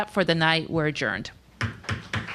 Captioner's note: pounding of gavel